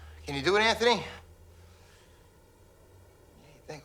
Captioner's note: mouthing words